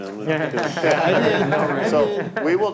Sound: all laugh

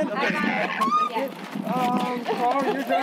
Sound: squealing

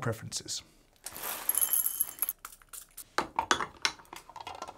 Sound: beans pouring

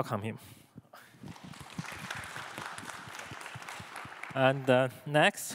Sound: audience applauding

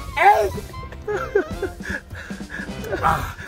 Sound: gulp down

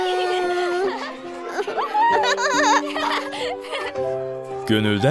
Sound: laughing together

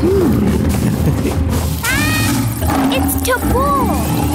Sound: chuckling

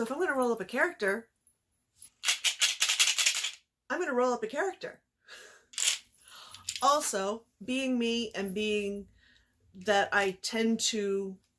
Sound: rattles dice

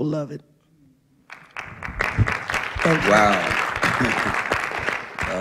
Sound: applause

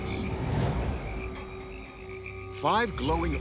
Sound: frogs croaking

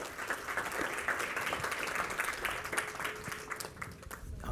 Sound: audience applauding

